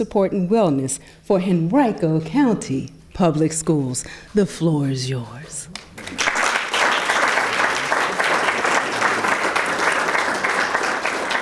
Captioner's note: clapping